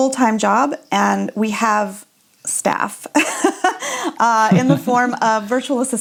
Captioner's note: laughs